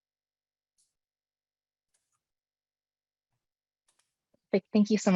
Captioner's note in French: audio coupé